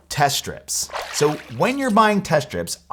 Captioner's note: water splashes